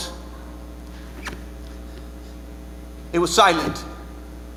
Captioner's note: boots squeaking